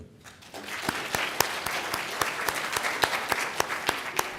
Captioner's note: applause